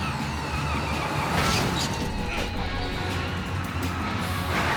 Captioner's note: tires screech